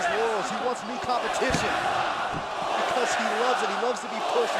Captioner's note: crowd cheering